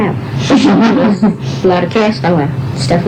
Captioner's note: laughter